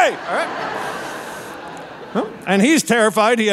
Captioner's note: audience laughing